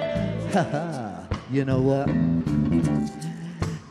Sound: chuckles

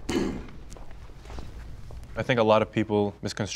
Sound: man clearing throat

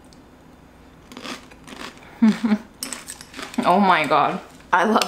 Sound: Corn Flakes crunching; chuckles

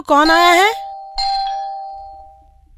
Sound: door bell rings

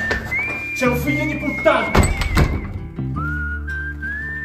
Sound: yelled

